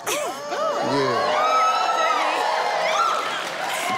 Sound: audience cheering

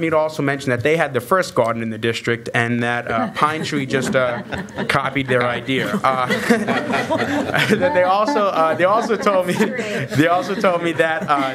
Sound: laughter

